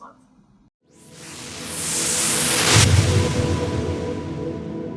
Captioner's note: whooshing